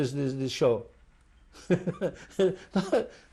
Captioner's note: laughs